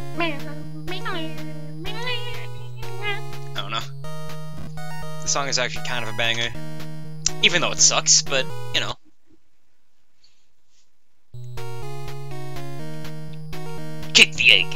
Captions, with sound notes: [starts singing along to the music] I don't know. This song is actually kind of a banger. Even though it sucks, (boo-womp) Even though it sucks, but, y'know. Kick the egg!